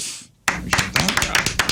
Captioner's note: clapping